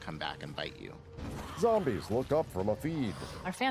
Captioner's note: zombies growling